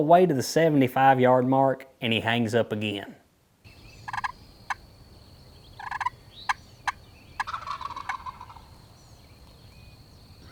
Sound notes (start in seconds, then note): 4.4 turkey call; 7.3 turkey gobble